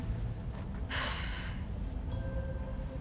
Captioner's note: sigh